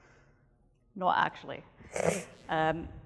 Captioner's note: laughs